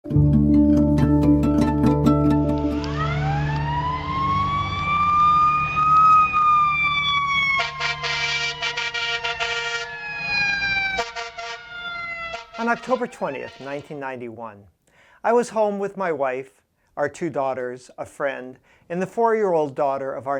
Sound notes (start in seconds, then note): 2.9 emergency sirens; 7.7 honking